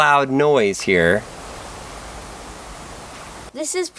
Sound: white noise

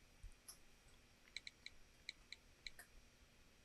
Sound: texting sounds

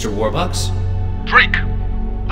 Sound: over telephone

